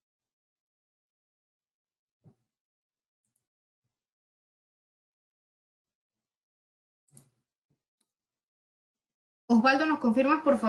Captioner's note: silence